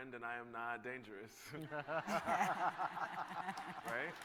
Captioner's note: laughter